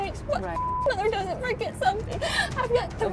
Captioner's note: beep